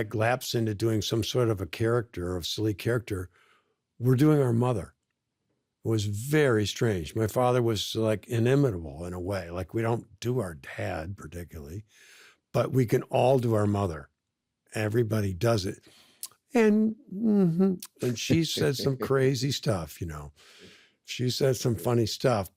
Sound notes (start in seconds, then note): 17.8 smacks lips; 17.8 chuckles